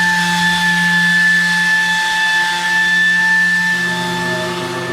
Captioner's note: sanding noise again